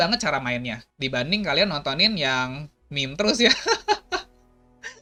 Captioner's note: laugh